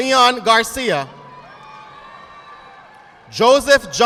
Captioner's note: audience applauding